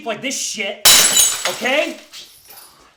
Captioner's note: plate shatters